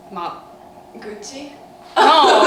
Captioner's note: laughs